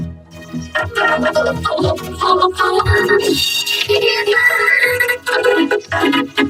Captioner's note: voice glitching, stuttering continuously